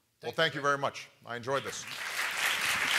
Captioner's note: applause